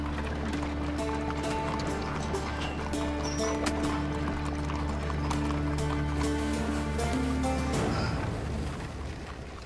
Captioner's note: at the sound of the car